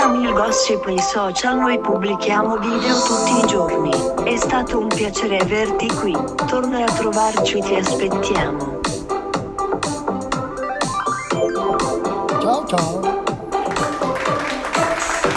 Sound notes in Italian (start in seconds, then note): 13.6 Applauso